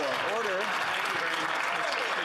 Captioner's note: applause